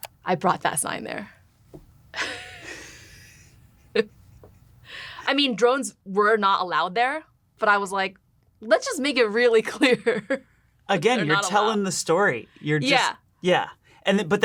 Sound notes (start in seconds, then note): 2.1 both laugh; 10.4 laughs